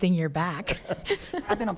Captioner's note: laughing